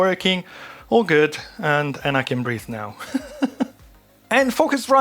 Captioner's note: laughs